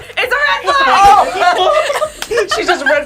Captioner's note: both laugh